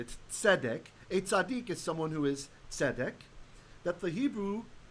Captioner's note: Hebrew